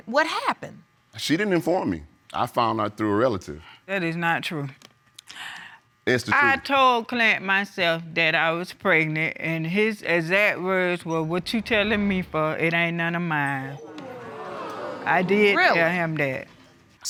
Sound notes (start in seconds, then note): 13.8 audience gasp